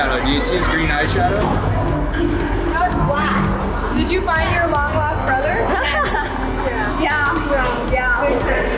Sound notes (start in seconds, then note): 5.6 laughing